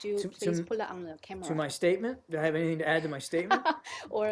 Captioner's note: laughter